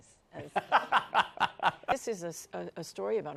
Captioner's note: laughs